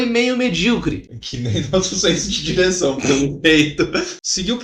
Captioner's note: laughing